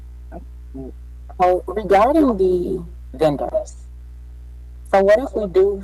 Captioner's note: radio interference drowns out speaker